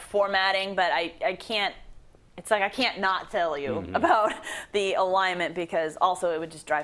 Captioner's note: laugh